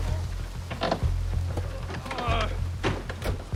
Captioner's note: homer groans